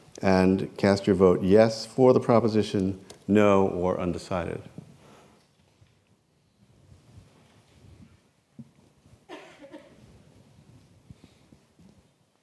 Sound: pause

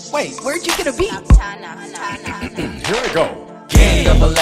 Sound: clears throat

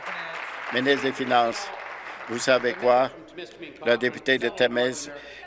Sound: applause

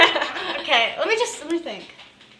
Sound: laughter

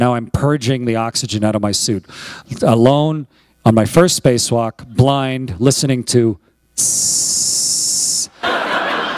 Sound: laughter

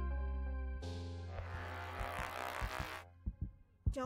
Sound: faint heartbeat; radio static

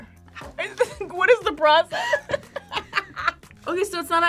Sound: laughs

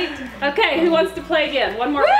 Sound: laughs

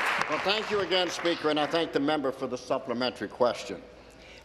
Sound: applause

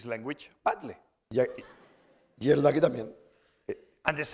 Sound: speaking spanish

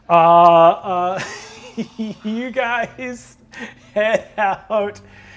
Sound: laughs

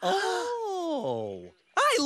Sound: gasps

